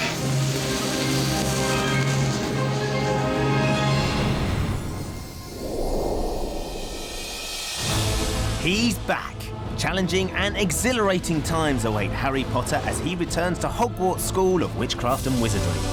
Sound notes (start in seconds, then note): none